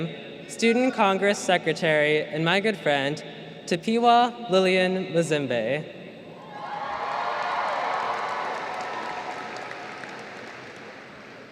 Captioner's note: cheers; applause